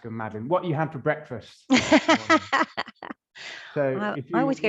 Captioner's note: laughing